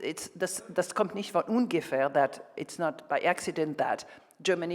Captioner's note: speaks German